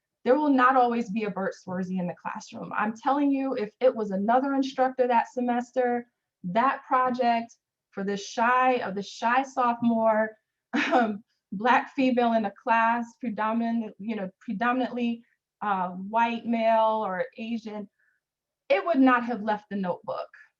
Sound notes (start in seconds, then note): 10.3 chuckles